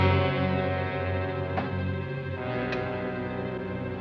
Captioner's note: none